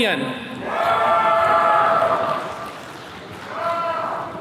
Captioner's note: attendees cheering